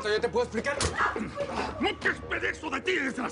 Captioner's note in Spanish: Gritos y exclamaciones